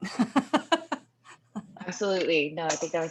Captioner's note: laughing